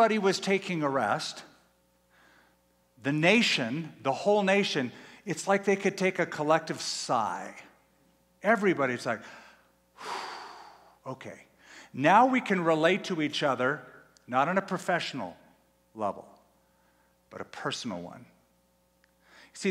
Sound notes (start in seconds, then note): 10.0 sighs